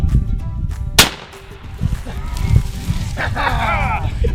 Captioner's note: gun fires